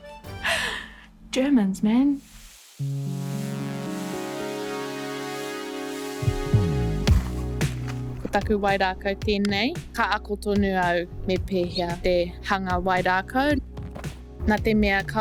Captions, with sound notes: Germans, man. (water spray hissing) (slow music)